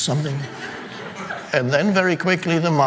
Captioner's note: audience laughing